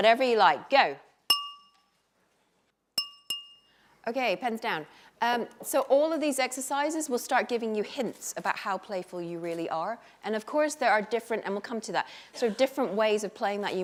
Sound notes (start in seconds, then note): 2.9 clinking glass